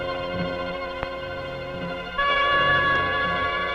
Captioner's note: reel clicking